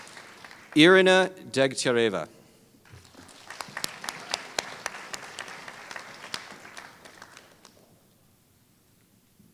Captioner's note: applause